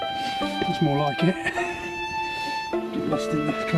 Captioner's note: laughs